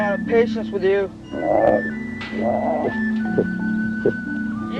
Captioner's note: roaring